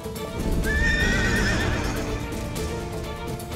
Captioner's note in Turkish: At kişneme sesi